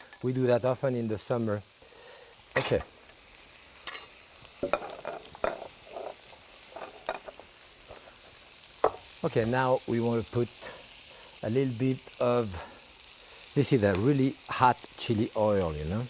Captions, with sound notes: We do that often in the summer. Okay. (pan sizzling) (bowl clinking) Okay, now, we wanna put a little bit of, let's see, that really hot chili oil.